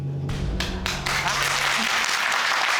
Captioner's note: audience applauding